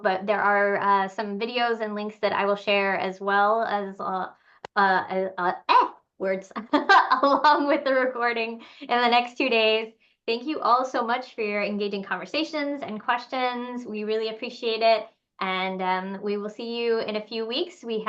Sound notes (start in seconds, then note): 6.2 laughs